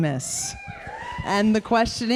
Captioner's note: audience cheering